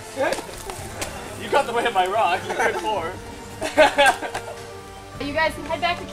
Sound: both laughing

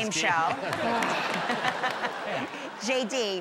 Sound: laughter

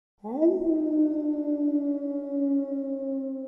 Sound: wolf howling

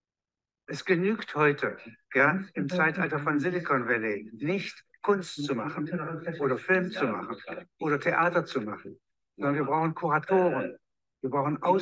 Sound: speaking german

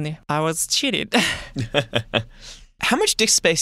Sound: laughter

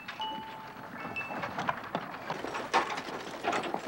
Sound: wagon rumbling

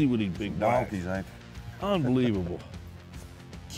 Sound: laughing

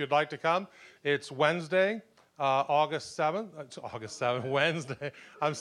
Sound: chuckling

